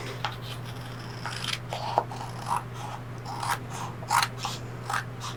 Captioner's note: scissors crunching